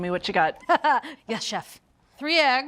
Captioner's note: laughs